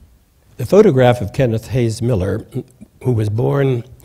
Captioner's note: coughs